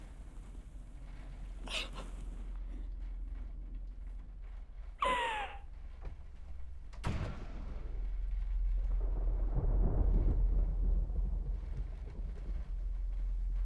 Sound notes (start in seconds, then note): 1.6 sobbing; 9.1 thunder rolling